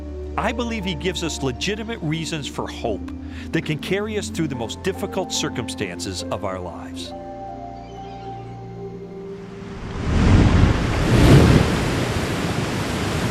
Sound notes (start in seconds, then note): 7.0 birds chirping; 7.6 waves crashing